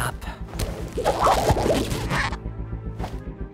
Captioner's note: rubbery squeaking